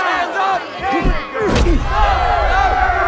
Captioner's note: smacking